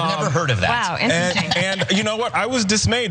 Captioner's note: laugh